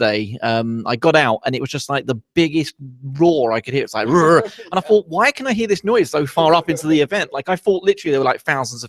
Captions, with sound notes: I got out and it was just like the biggest roar I could hear, it's like (roars dynamically) and I thought why can I hear this noise so far up into the event? Like I thought, literally, there were like thousands